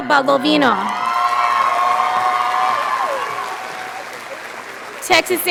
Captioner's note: audience cheering